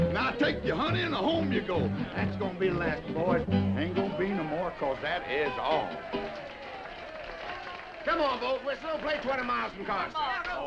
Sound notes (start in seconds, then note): 5.6 all applauding